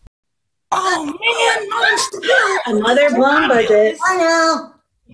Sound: kids cheering and grumbling

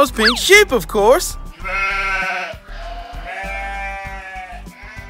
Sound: bleating

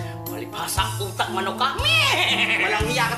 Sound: neighing

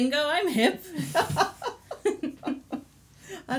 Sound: laughs

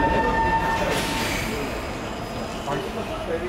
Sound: train air brake released

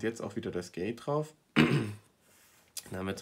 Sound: cough attack

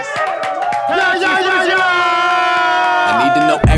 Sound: sound of cheering

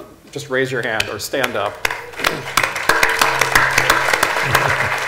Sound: applause

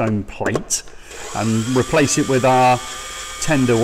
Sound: screwdriver whirring

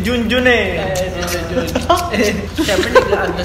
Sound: laughs

